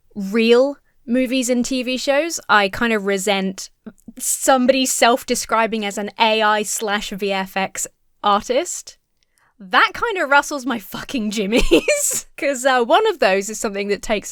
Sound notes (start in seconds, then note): 11.5 laughs